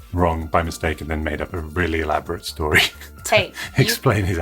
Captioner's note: laughs